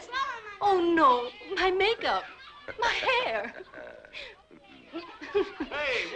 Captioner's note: giggles